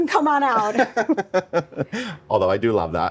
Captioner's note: laughing